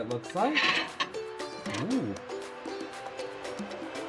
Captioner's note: plate scraping